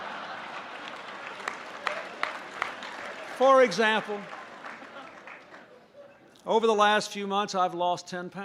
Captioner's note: laughter